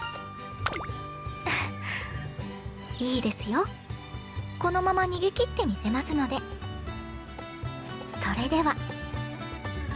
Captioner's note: giggle